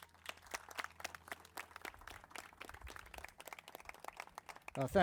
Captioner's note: crowd applauding